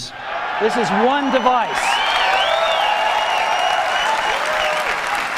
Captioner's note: crowd cheering